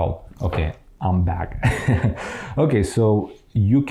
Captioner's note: laughs